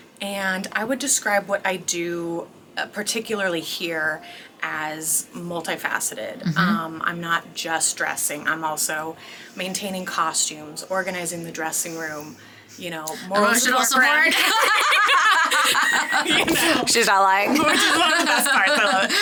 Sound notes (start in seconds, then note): 14.3 both laughing